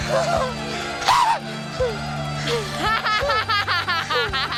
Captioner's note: laughing